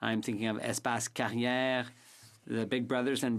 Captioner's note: speaking French